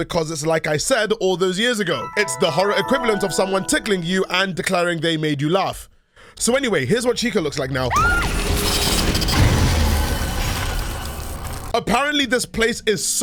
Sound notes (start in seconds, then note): 7.9 Cassie screams, jumpscare